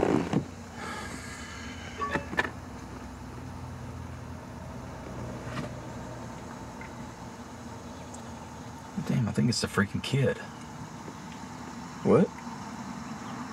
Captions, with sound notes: (phone notification pings) I think it's the freaking kid. - What?